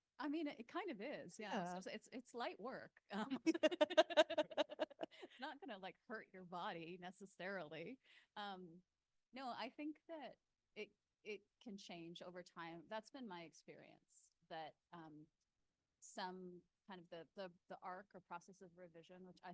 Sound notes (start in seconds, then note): 3.3 panel laughing